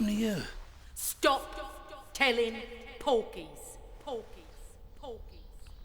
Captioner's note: mum's voice echoes